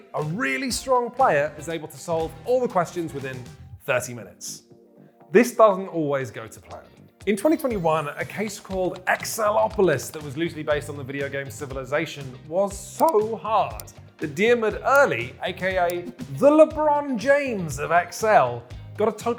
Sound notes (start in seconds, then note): none